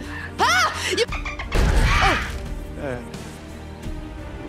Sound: laugh

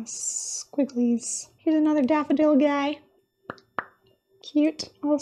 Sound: pop!

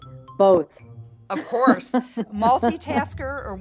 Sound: Jen laughing

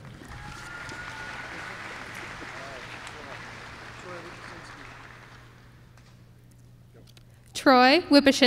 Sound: applause

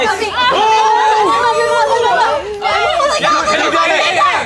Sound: excited cheering

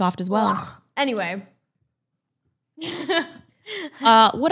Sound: laughs

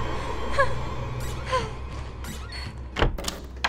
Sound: ominous music; scared breathing; door locks

